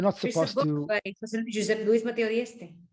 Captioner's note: speaking foreign language